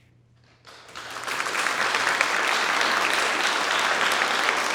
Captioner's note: audience applauds